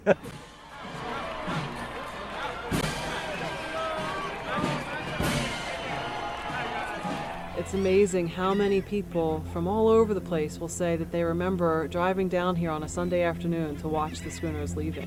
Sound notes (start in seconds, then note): 0.0 laughter; 2.7 crowd voices; 4.4 seagulls calling